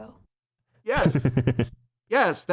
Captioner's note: chuckles